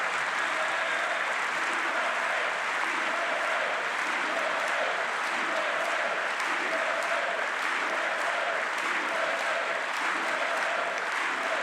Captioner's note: applause